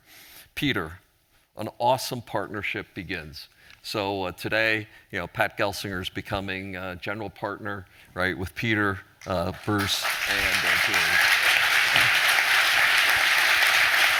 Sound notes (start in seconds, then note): 9.2 applause